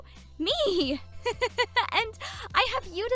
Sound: chuckles

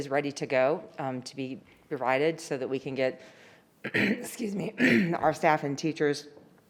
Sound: clears throat

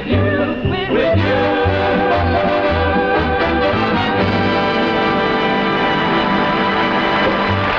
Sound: applause

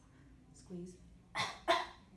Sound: coughs

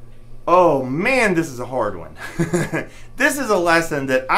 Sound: laughs

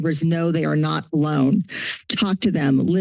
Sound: inhales

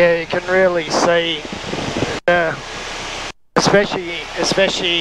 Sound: plane engine roaring

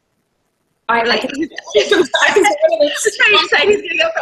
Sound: laughter

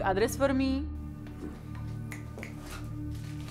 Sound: snaps

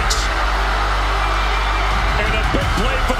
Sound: crowd cheering

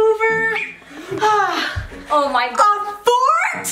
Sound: sighs

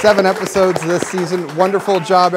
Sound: applause

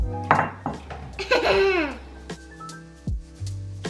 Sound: laughs

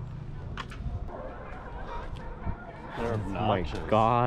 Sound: seal Lion roaring

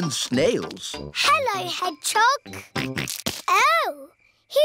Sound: snorts

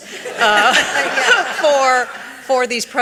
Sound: audience laughing

